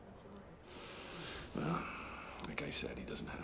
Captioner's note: breathes deeply